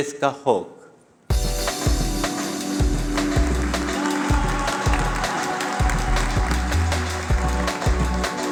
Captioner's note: applause